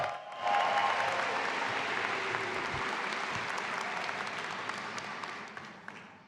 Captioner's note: audience applauding and cheering